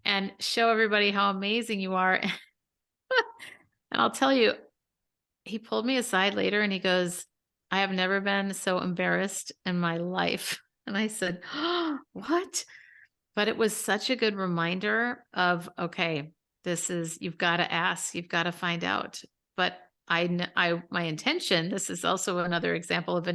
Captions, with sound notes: and show everybody how amazing you are?" And I'll tell you, he pulled me aside later and he goes, "I have never been so embarrassed in my life." And I said, "(gasps) What?" But it was such a good reminder of, "Okay, you've gotta ask, you've gotta find out." But my intention, this is also another example